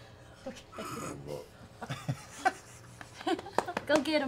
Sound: laughing

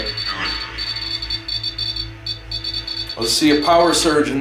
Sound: device beeping continues

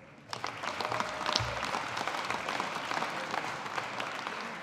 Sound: audience applauding

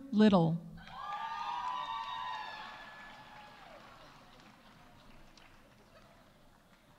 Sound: audience cheering; audience applauding

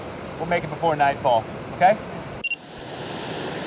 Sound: camera beeps on

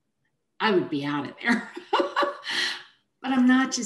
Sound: chuckles

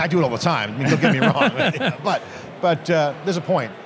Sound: laughs

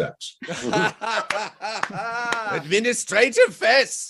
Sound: laughter, Clapping

